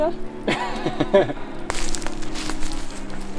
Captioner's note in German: lacht nur